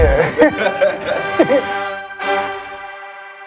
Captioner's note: all laugh